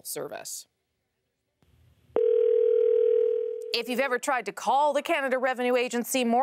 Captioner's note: phone ringing